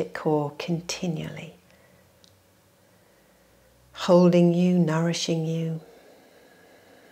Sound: exhales

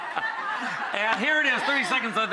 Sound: laughter

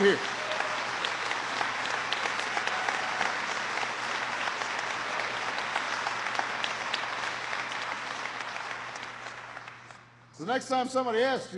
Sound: applause

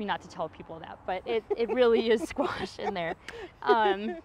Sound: laughs

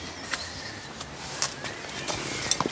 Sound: birds chirping

